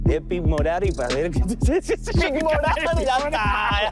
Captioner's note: laughs